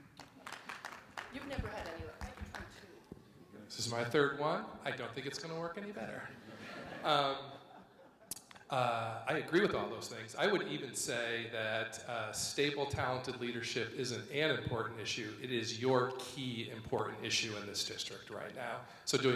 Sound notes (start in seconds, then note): 0.0 audience members clapping; 6.3 audience laughs